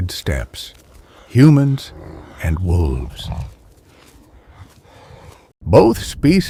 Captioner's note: wolf growling; wolf panting